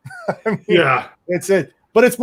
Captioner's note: laughs